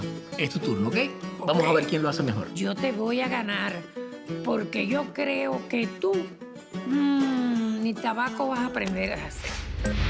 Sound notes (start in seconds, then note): 2.7 speaks Spanish